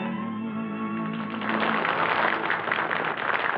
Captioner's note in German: applaus